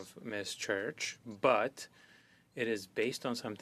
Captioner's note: speaking in French